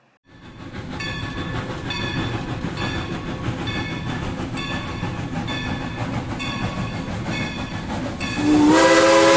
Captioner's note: train bell and steam whistle